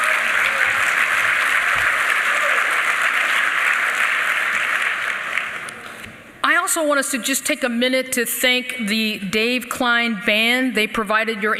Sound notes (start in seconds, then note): 2.6 applause